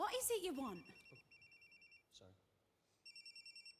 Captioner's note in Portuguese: cell phone ringing